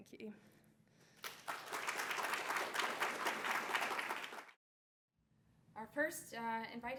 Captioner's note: applause